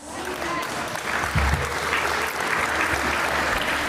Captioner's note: audience applauds